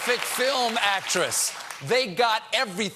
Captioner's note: cheers and applause